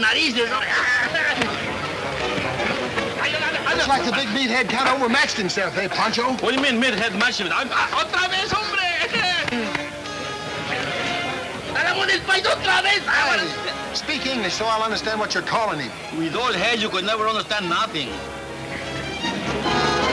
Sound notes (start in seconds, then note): 7.2 speaking Spanish